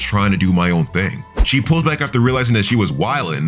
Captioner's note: air whooshing